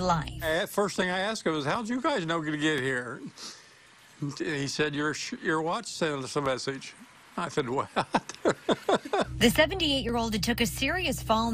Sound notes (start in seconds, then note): 7.8 laughter